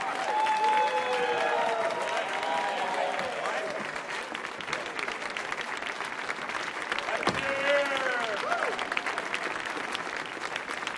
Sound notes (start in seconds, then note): 0.0 audience cheering